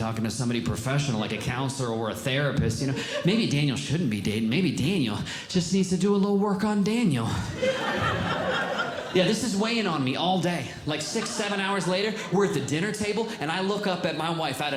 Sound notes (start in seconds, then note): 7.2 audience Laughing